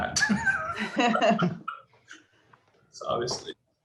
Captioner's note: both laugh